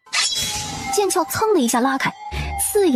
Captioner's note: whoosh